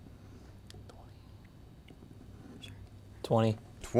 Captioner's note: team whispering